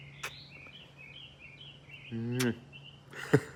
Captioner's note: laughs